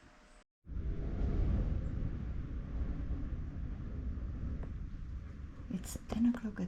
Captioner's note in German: Windgeräusche